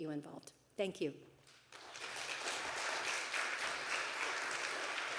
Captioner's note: audience applauding